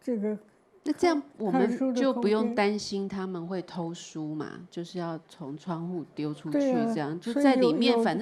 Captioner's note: Mandarin